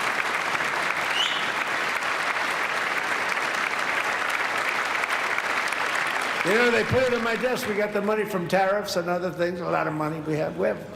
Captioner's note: applause